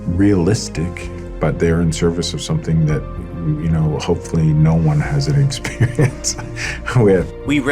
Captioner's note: laughs